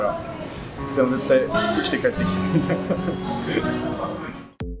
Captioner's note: laughs